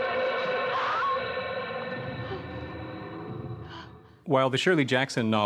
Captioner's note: Eleanor yelps